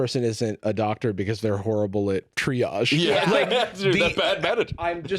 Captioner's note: laughs